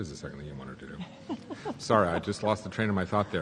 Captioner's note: laughs